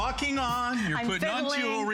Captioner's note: laughter